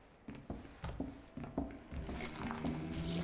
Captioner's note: footsteps tap; sinister music; liquid splashing